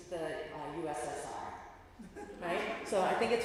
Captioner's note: laughter